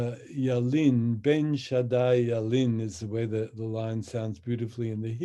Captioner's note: speaks in Hebrew